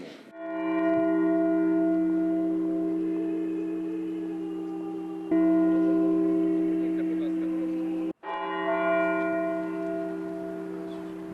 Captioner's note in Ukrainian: Дзвони